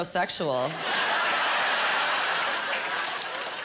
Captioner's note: laughing